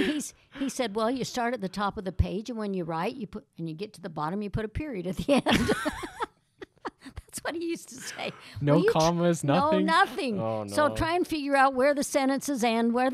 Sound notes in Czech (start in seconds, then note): 6.6 Smích